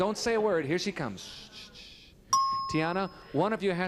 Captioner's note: ding